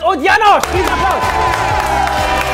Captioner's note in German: Jubel